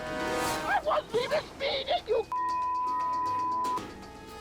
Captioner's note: tense music; tense music; beep